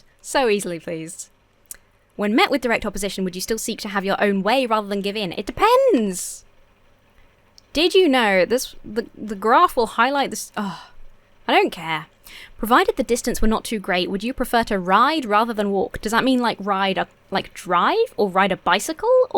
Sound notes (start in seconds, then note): 10.6 sighs